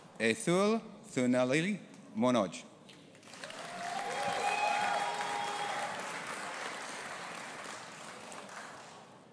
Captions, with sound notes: Athul Thunoli Manoj. (AUDIENCE APPLAUDING AND CHEERING)